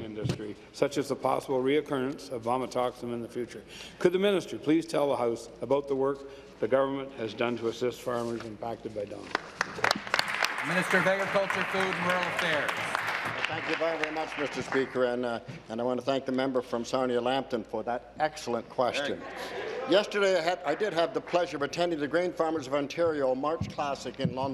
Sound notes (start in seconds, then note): 14.6 applause